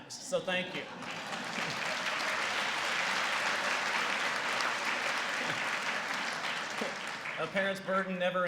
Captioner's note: applause